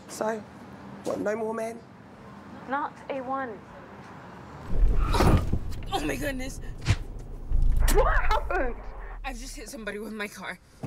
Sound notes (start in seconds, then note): 4.6 tires screeching; 6.4 air whooshing